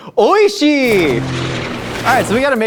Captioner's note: plane revving